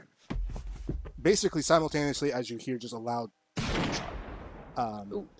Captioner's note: rifle Shot